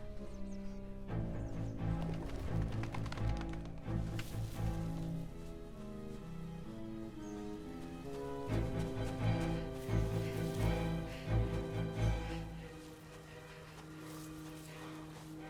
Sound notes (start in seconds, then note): 1.8 wings flap